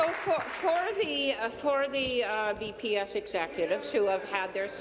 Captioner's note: applause